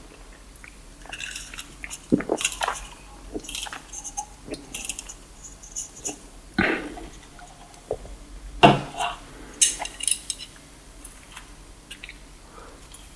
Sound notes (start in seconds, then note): 0.9 swallowing soda…; 6.6 exhale